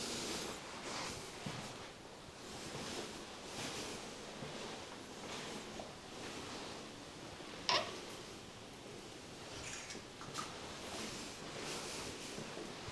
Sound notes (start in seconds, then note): 7.7 the sound of opening the door